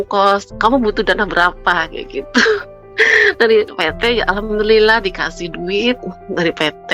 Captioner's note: terkesiap